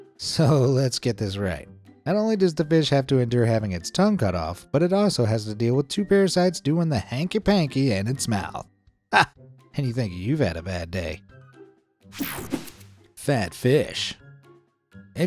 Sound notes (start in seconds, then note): 9.3 laughs; 12.2 image whooshing